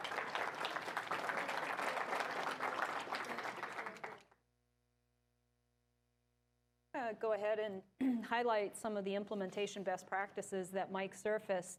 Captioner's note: applause